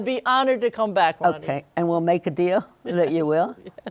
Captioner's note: laughs